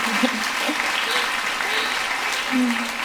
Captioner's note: laughter; applause